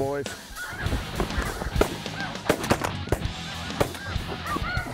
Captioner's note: gun shots